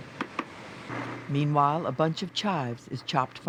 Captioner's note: voiceover